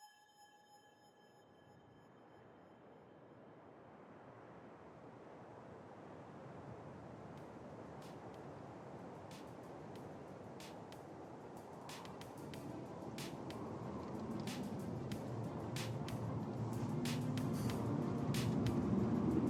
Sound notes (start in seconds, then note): 0.2 silence; 2.8 light wind; 12.5 upbeat music